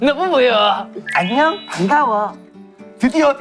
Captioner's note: Ppowoo with sweet voice